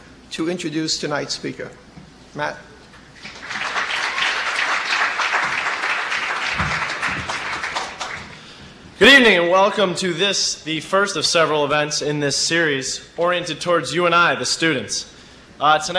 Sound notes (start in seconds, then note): 3.2 applause